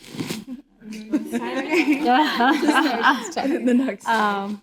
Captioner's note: all laughing